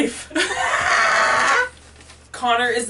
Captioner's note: dying sheep noise